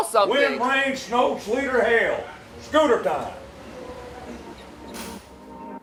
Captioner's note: laughs